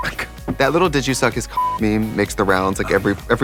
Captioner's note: beeping